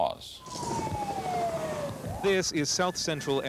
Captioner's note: sirens